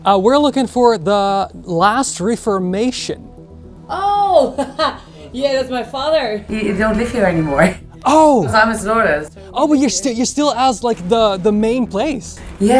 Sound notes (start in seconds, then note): 4.2 laughs